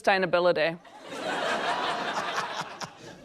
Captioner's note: laughter